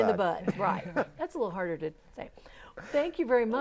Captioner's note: laughing